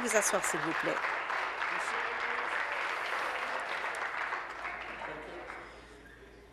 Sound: applause

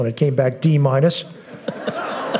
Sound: laughter

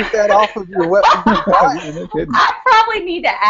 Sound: laughter

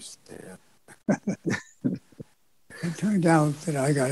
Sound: laughing

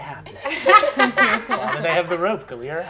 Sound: players laughing

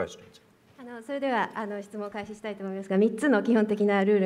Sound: speaking japanese

